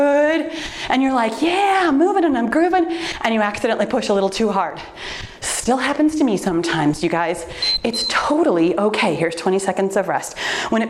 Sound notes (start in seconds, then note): 7.5 timer beeps